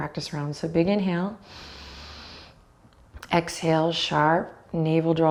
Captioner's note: sharp exhale